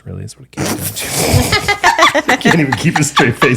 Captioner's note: laughing